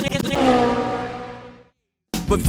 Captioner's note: vrroom